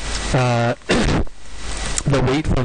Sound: cough

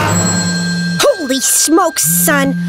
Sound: telephone rings

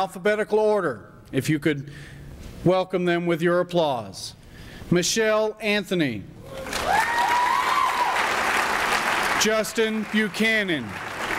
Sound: applause starting

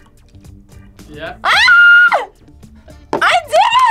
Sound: screams

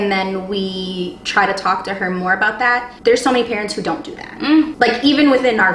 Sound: mmm

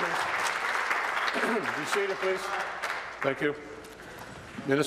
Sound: applause

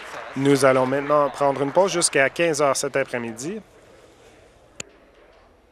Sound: applause

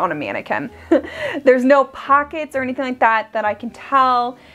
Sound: chuckles

